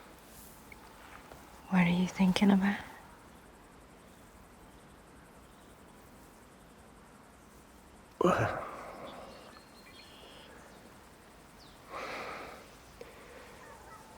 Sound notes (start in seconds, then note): 8.2 Robert sighs